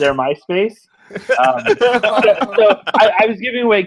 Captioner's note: laughing